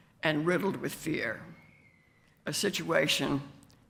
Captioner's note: none